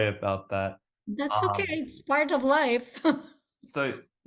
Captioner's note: laughs